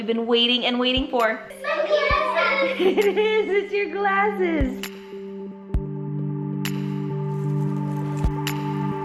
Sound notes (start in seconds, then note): 1.4 excited talking; 1.6 laughing; 6.2 light music